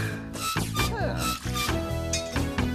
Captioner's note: gate Squeaking